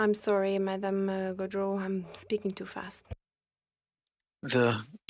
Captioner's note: speaking french